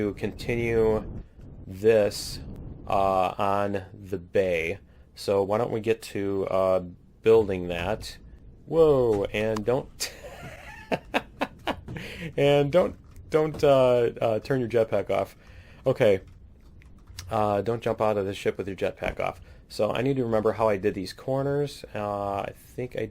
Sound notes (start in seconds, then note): 10.0 laughs